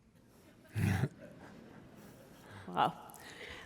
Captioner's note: chuckling